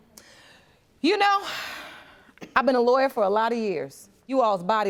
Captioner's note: sighs